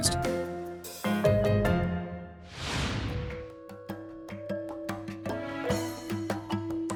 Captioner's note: upbeat music; frame whooshes